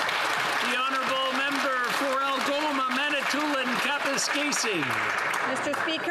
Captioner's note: applause